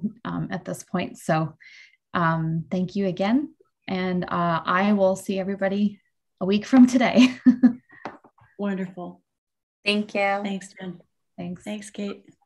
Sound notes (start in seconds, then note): 7.1 laughs